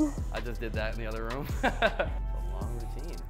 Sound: laughs

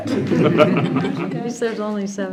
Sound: board laughing

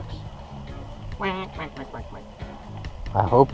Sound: quacking

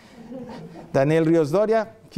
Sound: laughter

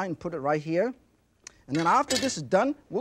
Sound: knife clinks

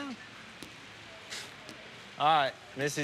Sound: scoffs

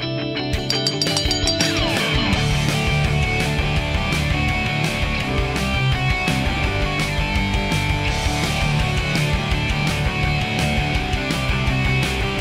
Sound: bell ringing

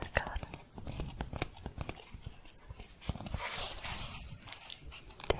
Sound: tapping, then shuffling

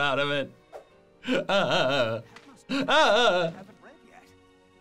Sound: crying

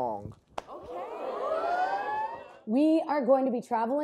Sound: choir cheers

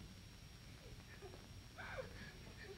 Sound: sobbing

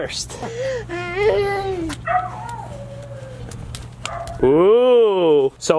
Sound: dog barks

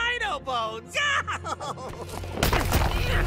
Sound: evil laughter; snapping

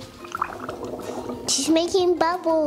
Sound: gurgles

